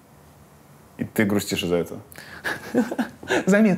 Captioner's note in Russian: Ира смеётся